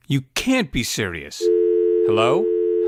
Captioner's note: phone hangs up